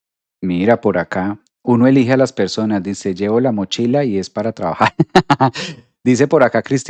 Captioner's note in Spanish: risas